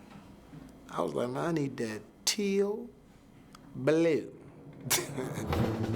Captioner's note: chuckles